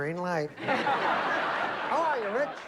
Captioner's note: laughter